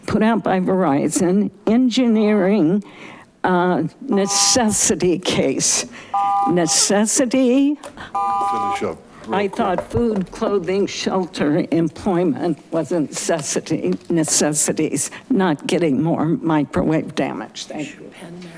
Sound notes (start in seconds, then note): 6.1 buzzer chiming; 8.1 buzzer chiming